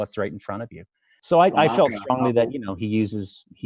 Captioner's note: mumbles